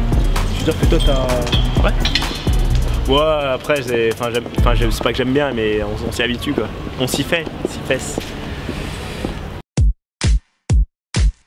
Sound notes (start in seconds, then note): none